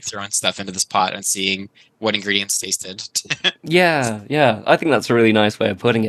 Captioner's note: laughs